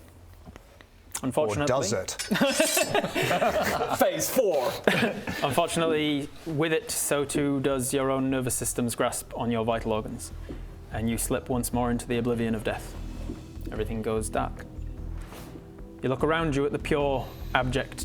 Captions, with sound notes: Unfortunately or does it... *sching!* Phase 4! unfortunately with it so too does your own nervous system's grasp on your vital organs and you slip once more into the oblivion of death everything goes dark you look around you at the pure, abject